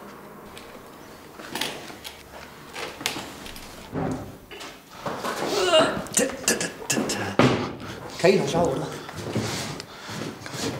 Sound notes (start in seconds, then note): 0.5 soft cracking; 5.4 strained groaning